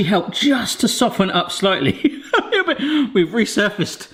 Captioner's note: laughs